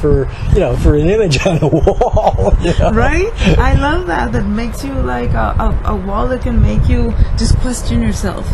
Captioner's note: laughs